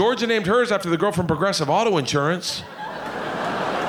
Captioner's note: audience laughing